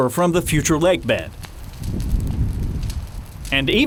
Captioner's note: flames crackling